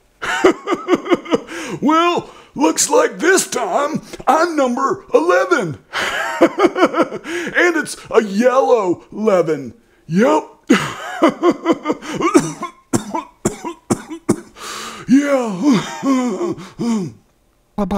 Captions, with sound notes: Grandpa Uppet> ha ha looks like this time I'm number eleven ha ha .... and it's a yellow leven yup ha ha cough cough cough cough yeah [ clears throat ]